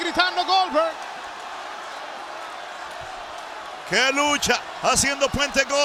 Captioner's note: applause